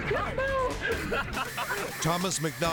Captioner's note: teenagers laughing